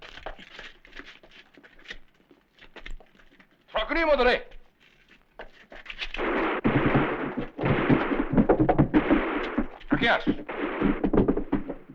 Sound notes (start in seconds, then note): 3.3 non-english speech; 6.2 distant gunfire; 9.9 non-english speech